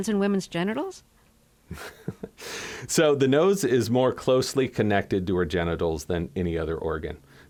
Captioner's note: laughter